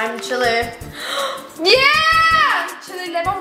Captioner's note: gasping